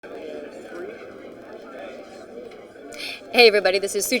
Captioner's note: people chatter